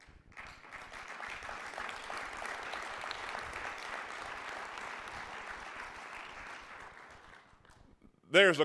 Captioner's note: applauding